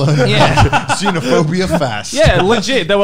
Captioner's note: laughing